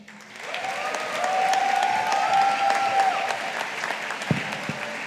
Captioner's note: audience applauding